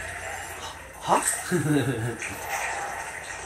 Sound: laugh

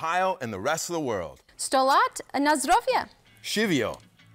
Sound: speaks foreign language

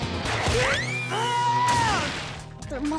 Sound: screaming

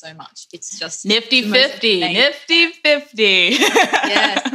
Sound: laughs

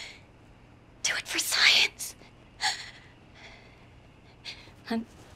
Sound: voice trembling

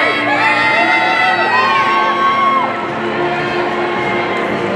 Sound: people cheering

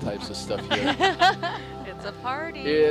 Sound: all laughing

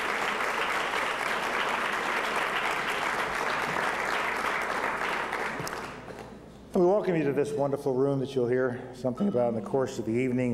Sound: applause

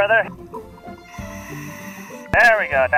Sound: deep breathing

